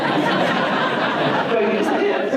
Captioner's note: audience laughter